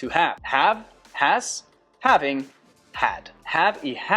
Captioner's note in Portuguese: Inglês